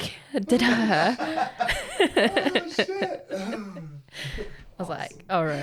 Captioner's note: both laughing